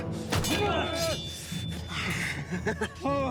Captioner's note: sword whooshing; swords clanging; fighters grunting; Orn laughs